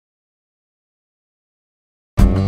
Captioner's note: silence